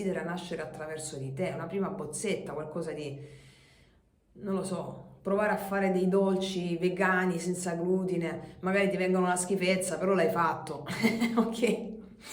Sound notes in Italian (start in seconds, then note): 10.8 risate